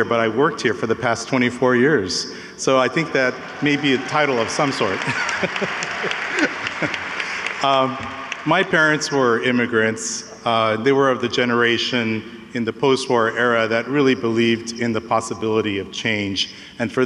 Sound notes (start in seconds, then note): 4.8 laughs; 5.5 audience applauds